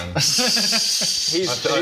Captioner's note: how dare you laughter